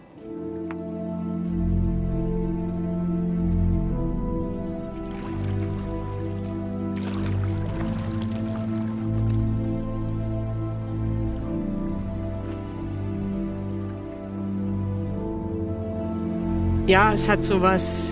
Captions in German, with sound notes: (Atmosphärische Musik) (Plätschern des Wassers) Ja, es hat so was ...